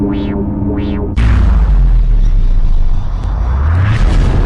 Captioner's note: distorted explosion sound